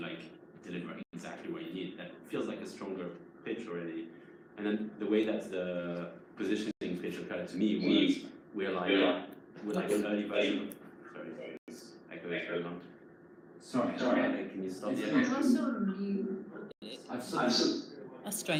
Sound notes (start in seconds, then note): 7.8 distorted echoing